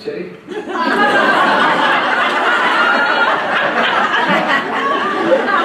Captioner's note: loud laughter